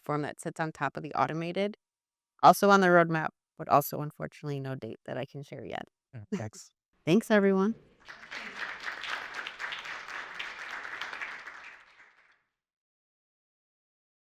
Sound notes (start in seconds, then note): 8.0 attendees applauding